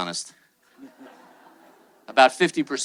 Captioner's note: attendees laughing